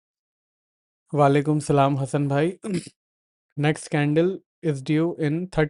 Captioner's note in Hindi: गला साफ़ करने की आवाज़